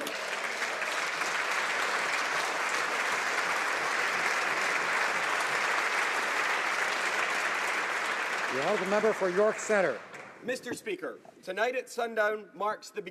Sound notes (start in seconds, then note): 4.1 applause